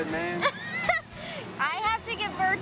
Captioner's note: laughing